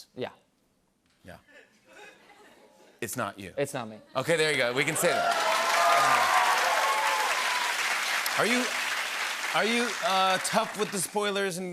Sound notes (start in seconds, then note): 4.6 cheers and applause